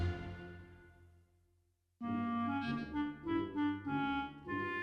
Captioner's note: none